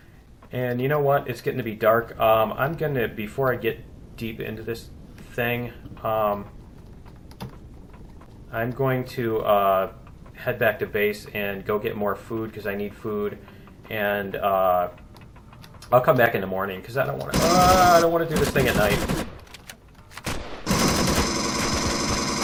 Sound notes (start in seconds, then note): 17.3 alien gunfire; 17.3 pulse rifle; 20.0 turret fire; 20.1 pulse rifle; 20.2 alien gunfire; 20.2 pinging